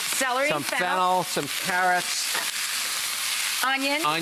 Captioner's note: pan sizzling